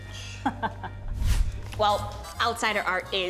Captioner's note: chuckles